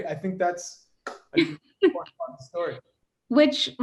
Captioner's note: chuckles